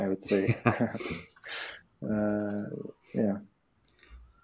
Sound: laughs

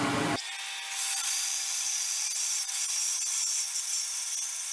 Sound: band saw whirring

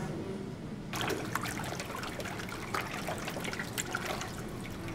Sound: water splashes

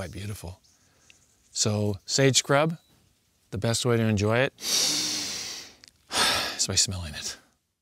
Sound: deep breath

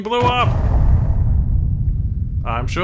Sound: explosion

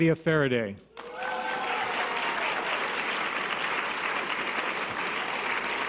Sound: audience cheers and applause

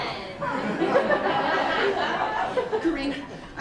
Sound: laughter

